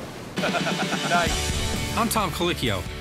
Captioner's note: laughs